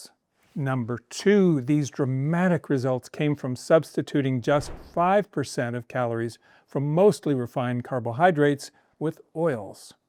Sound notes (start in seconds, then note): none